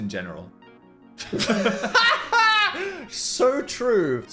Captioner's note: laugh